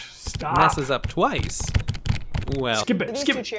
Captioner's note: keyboard clicking rapidly